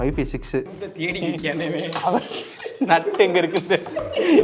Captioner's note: laughing and talking in background